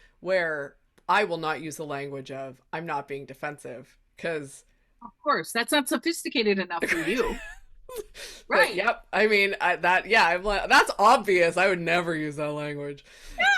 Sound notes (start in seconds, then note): 6.9 laughing